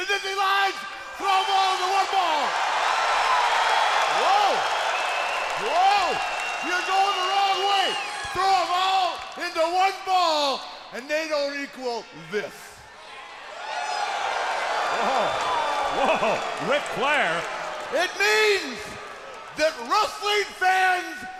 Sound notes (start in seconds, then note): 4.0 crowd cheering; 13.4 crowd cheering